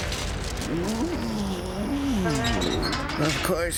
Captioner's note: groaning